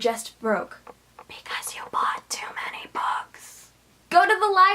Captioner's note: whispering